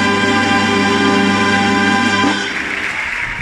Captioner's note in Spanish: gritos y aplausos